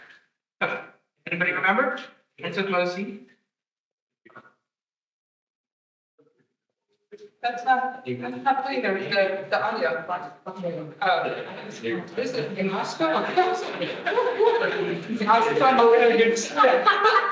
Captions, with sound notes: - Anybody remember? It's with mocie. - That's not putting the audio. (attendees chattering)